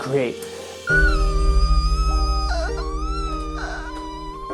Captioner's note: shrill crying